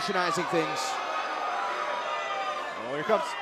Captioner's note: crowd cheering